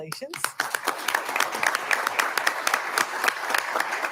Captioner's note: audience applauding